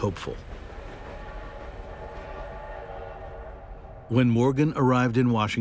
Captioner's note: train whistle blowing